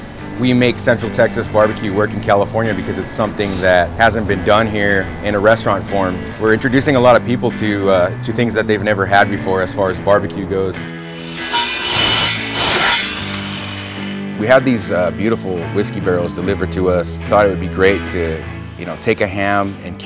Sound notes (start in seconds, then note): 11.0 power saw grinding